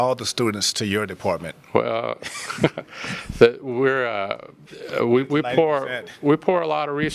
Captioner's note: laughter